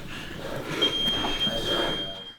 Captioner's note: beep; voiceover